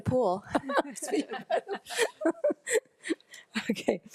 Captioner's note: laughs